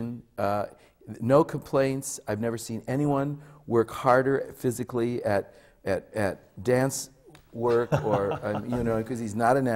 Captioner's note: laughs